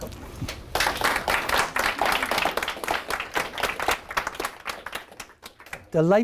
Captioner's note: applauding